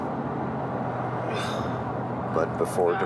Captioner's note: sighs